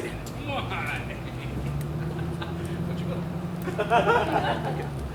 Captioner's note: laughs